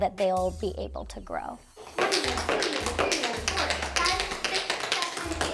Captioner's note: taps